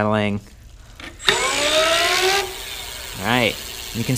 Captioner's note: motor whirring